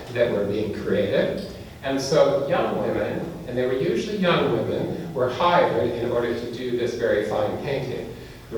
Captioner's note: none